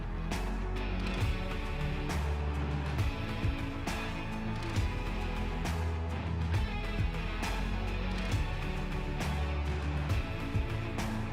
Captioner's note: applause